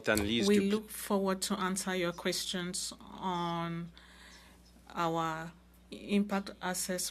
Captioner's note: speaking French